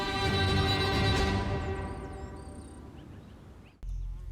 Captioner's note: birds chirping